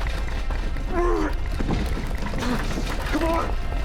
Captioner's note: grunting